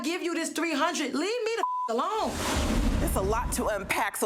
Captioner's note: beep